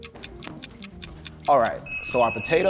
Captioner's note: ticking